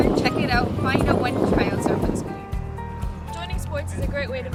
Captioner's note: wind blowing